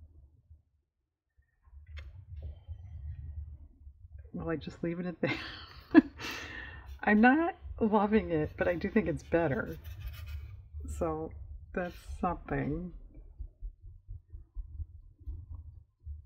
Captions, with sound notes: should i just leave it at that? (laughs) i'm not loving it but i do think it's better so that's something